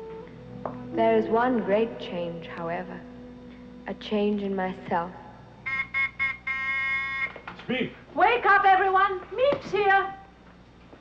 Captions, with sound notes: There is one great change however, a change in myself. (buzzer buzzing) - It's Miep. - Wake up, everyone. Miep's here.